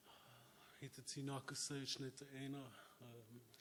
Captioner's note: speaking Algonquian